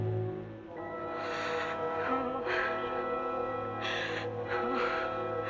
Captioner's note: gasping, Muttering